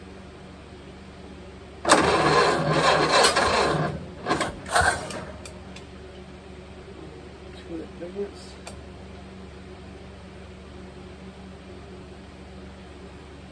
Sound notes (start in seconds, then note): 1.8 engine cranking; 1.8 engine dies; 1.8 engine sputtering/idling